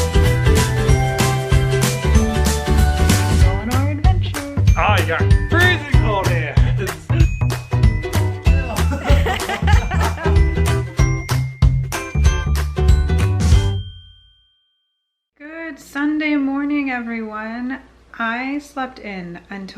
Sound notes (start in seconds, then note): 8.6 they both laugh